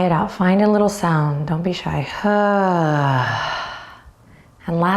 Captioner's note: loudly sighs